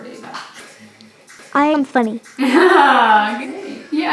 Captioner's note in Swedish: skratt